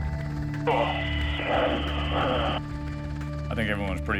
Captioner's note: sighs